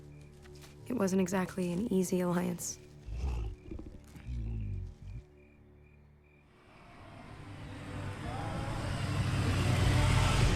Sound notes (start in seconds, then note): 3.0 growls